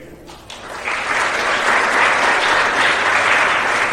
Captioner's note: applause